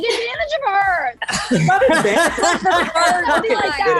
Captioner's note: laughing